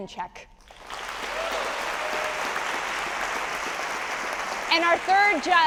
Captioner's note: audience applauding